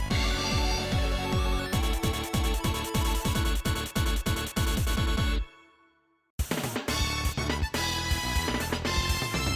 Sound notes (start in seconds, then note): 0.0 epic music; 5.5 finally, a moment of silence